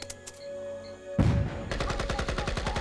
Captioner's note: explosion; gunfire and shouting